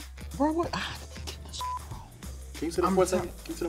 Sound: whispers; beep

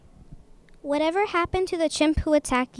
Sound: voiceover

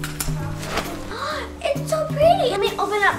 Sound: umbrella popping open

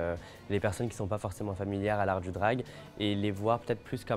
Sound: speaking French

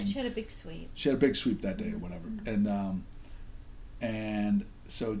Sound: voiceover

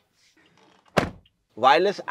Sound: door thud

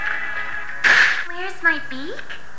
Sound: audible Bite

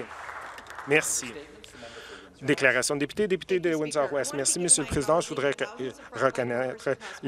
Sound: some Applause

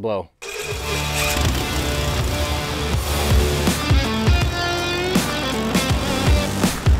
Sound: upbeat music; airboat motor roaring

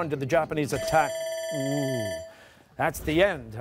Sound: bell rings

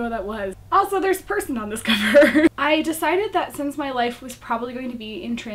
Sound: laughs

